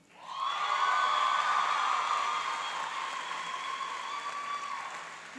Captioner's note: cheering and applauding